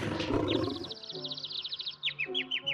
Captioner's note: birds chirping